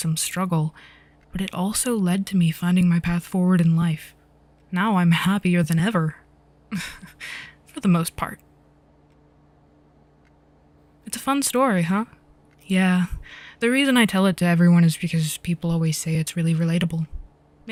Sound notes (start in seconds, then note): 6.8 Lorcan laughs